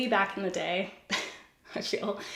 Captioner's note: giggles